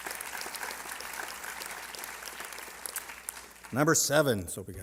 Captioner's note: applause